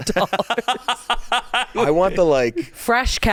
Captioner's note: laughing